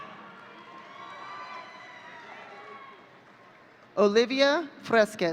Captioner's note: audience cheering